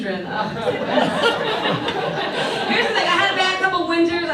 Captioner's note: audience laughs